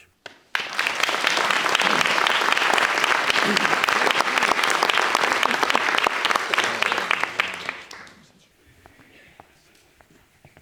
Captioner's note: applause